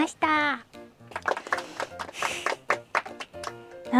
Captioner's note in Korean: 짝짝짝짝짝짝